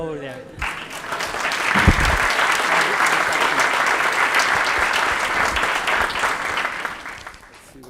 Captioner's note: applause